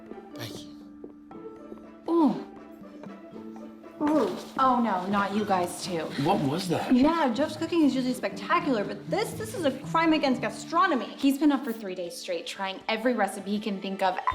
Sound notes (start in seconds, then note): 2.2 groaning